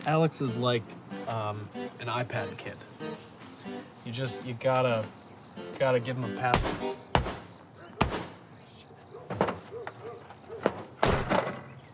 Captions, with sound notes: Alex is like an iPad kid. You just, you gotta give him a- (golf club thudding)